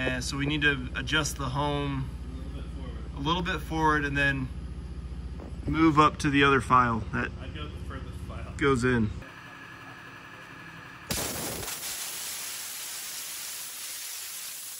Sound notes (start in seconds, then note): 11.1 water hisses